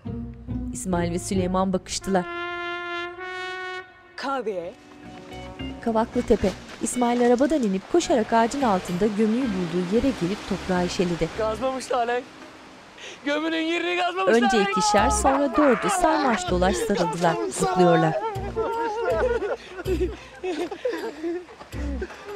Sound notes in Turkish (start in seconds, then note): 16.8 Hep bir ağızdan; 20.3 Gülme sesleri